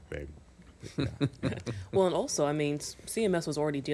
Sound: laughing

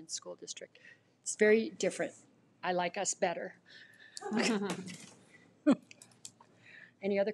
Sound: women laughs

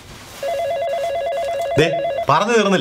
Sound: phone rings

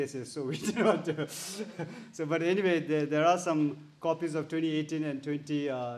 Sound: chuckles

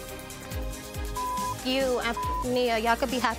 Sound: beep

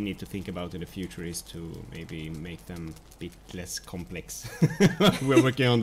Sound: laughs

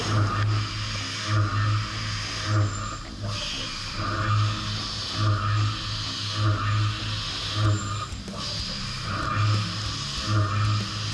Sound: machining noises

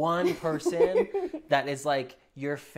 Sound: laughs

